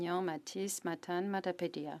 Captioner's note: speaking French